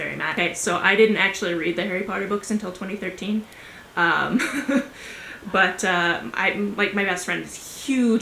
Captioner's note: laughs